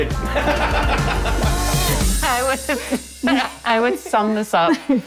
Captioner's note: group laughs